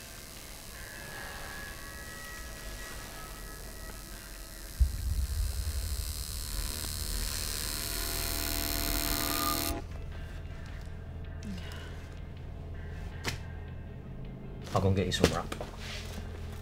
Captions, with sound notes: [Eerie Noise] I am going to get you some wrap.